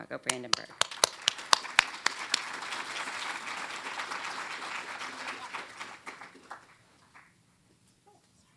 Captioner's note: applause